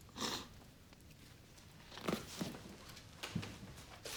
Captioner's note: woman sniffling